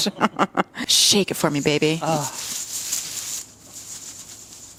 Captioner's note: sequin sounds